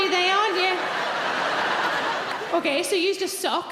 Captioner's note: audience laughing